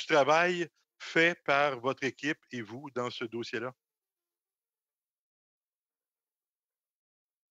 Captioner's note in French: voix de l'interprète